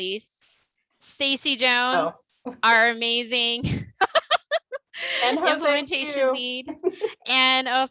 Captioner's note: laughter